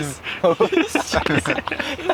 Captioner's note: laughter